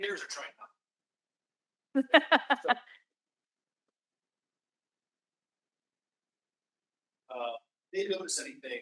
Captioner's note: laughs